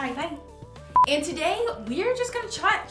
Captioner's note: beep